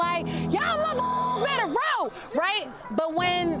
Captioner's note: beeps